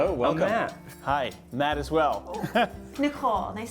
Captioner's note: laughing